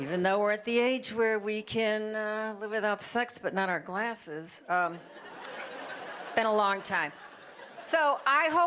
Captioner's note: audience laughter